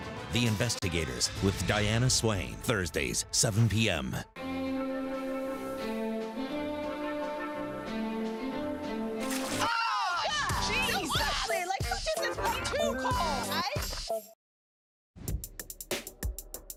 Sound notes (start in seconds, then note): 4.2 orchestral; 9.2 splash